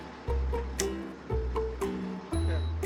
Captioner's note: snap